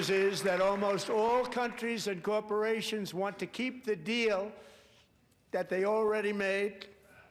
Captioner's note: applause